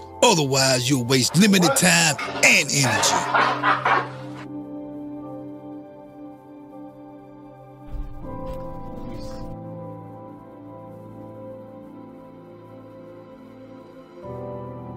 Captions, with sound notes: Otherwise, you’ll waste limited time and energy. [laughing] [sad music]